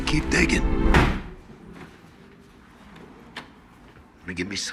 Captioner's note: door slams